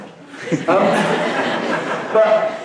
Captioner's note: laughing